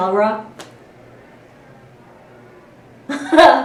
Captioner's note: laugh